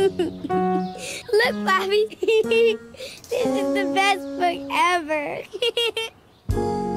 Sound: laughs; laughs

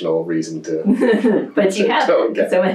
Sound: laughter

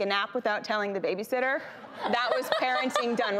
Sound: laughing

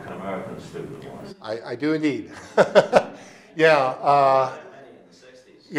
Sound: laughing

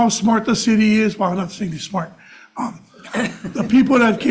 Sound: members chuckle

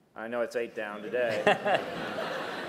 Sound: laughter

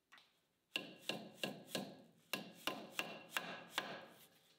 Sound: hammer taps

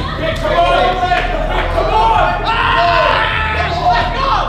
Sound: cheering

